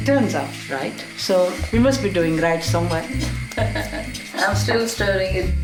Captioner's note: laughs